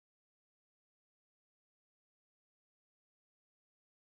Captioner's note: none